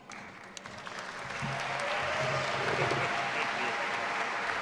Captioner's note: audience applauding